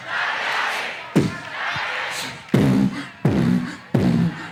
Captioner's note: beat boxes